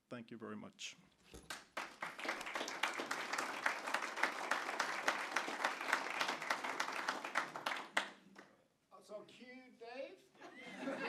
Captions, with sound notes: Thank you very much. (applause) So, cue Dave?